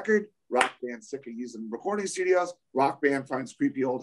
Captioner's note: claps